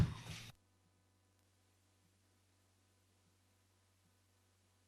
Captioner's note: audio cuts out